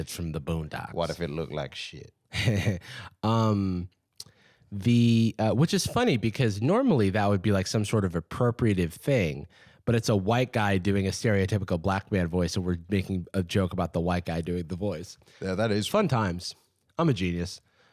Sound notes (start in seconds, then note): 2.3 laughs